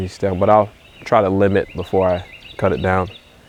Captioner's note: laughing